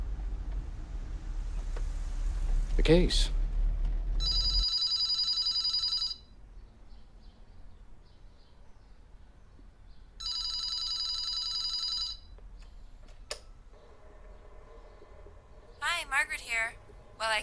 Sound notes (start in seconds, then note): 0.0 car engine revving; 4.2 telephone ringing